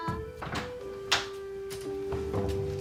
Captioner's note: door opening